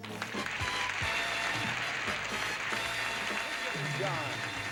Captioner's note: audience applauding